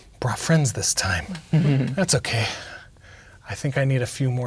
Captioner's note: players laughing